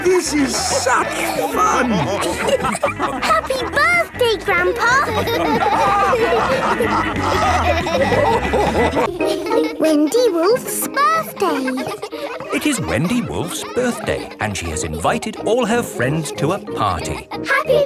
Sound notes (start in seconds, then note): 2.3 laughing; 6.2 all laughing; 12.3 kids laughing